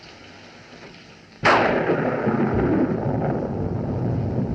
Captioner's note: thunderclap